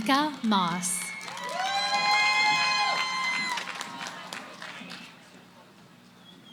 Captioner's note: cheering; background conversations